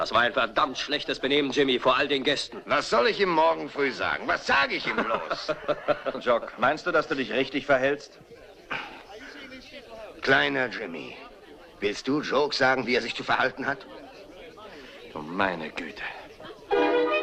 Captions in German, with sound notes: Das war verdammt schlecht. Vor all den Gästen. Was soll ich morgen früh sagen? Was soll ich ihm sagen? [lacht] Du hattest kein Recht, dich so zu benehmen. Kleiner Jimmy, sagst du Jock, wie er sich zu benehmen hat? Ist es das? Oh, um Gottes willen.